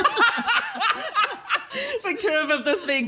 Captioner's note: laughs